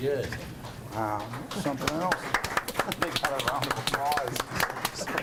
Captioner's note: applause